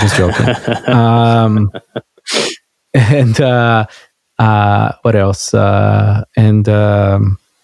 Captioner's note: laughing